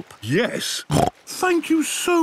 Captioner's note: snorts